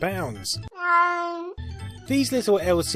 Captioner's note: deranged cat sound